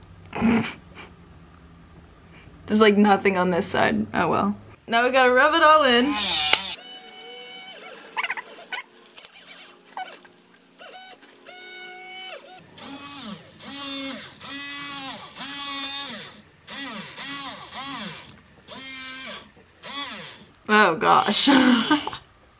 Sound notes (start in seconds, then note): 0.3 laughs; 6.1 robot movement noises